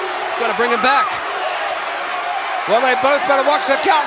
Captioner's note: audience cheering